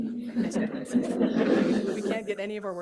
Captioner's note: laughter